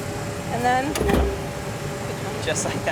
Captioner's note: clunking